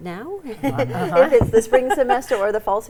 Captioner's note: all laugh